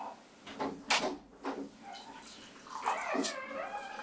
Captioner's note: door opens; door creaks